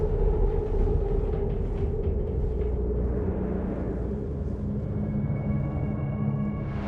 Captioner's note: eerie music; ship creaking